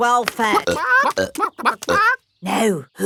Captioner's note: clucking